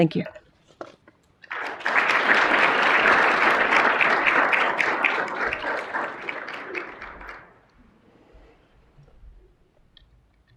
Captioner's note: applause